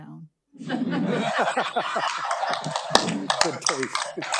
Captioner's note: audience laughing